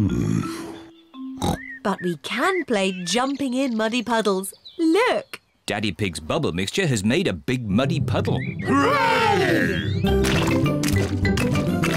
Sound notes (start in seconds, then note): 1.4 oinks